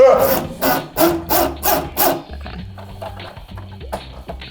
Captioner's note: wheel clicking